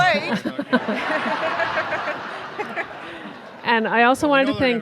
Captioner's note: audience laughing